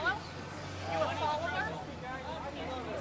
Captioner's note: indistinct shouting